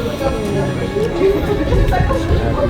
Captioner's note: indistinct background chattering